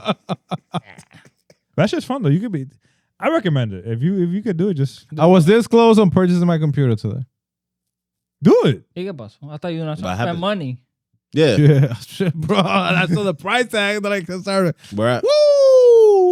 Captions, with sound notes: (Laughing) That shit's fun though, you could be, I recommend it if you could do it just, I was disclosed on purchasing my computer today. Do it. You're a bust, I thought you were gonna show us that money. Yeah. Yeah, shit, bro, and I saw the price tag, but I could start it. We're at. Woo!